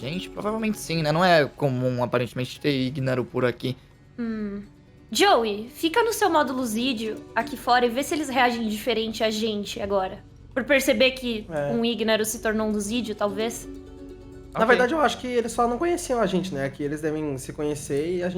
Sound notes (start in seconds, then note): none